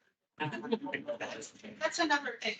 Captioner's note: attendees laughing